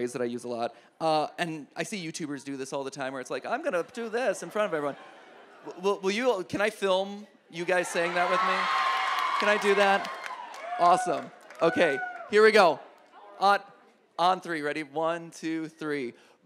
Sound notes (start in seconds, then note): 7.6 audience cheers